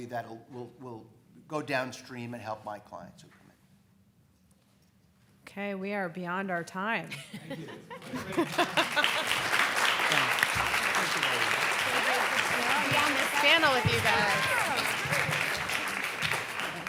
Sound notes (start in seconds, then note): 7.4 panelists laughing; 8.0 crowd clapping